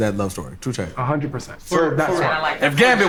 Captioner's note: overlapping chatter